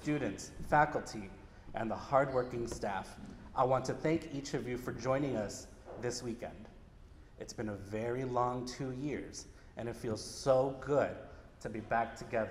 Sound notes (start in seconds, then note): none